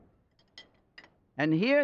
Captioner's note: spoons clatter